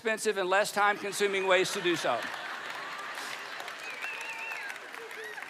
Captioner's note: audience laughing